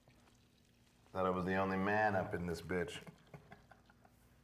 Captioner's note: risas